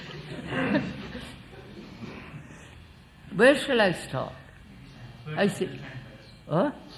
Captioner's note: laughs